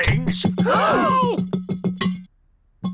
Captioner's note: all gasp